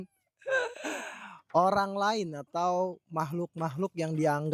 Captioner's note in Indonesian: tertawa